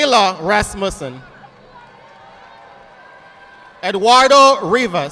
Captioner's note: audience applauding